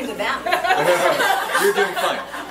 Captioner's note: group laughs